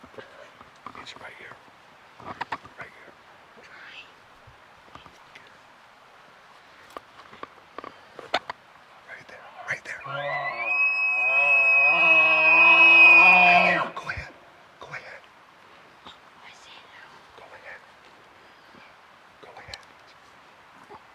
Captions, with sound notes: Right here I'm trying Right there right there [elk bugling loudly] Go ahead go ahead I see it now! Go ahead Go ahead